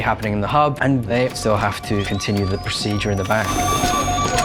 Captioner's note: machine beeping rapidly